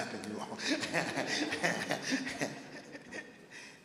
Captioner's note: laughing